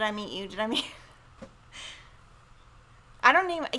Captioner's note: chuckles